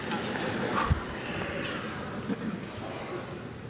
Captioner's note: audience laughs